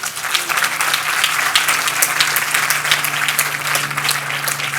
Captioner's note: audience applauding